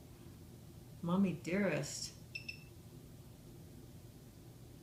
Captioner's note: device beeps